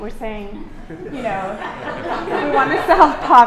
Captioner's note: laughter